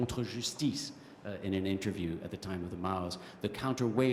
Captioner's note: french